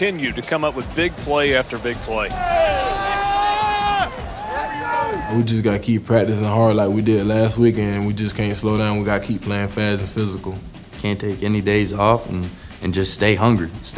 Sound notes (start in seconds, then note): 0.0 voiceover; 2.7 cheering